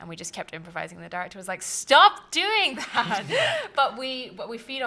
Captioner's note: laughter